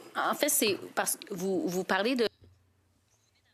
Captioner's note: speaking in French